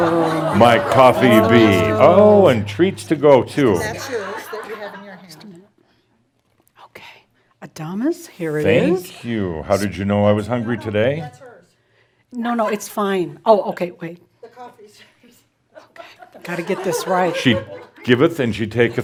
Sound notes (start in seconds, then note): 0.0 laughter; 4.7 more chuckles; 18.6 some giggles as she trades cups